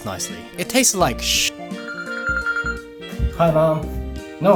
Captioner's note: phone rings